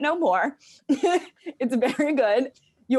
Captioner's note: laughs